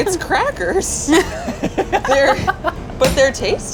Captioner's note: laugh